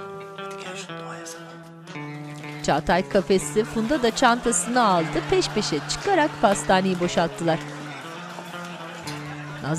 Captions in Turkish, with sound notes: Hadi gel şunu doğaya salalım. Hadi gel. (Gülme sesi)